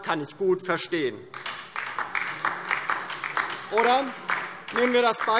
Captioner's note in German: Beifall DIE LINKE